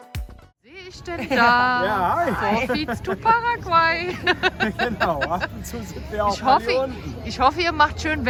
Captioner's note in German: gelächter